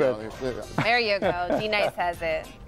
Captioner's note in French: laughter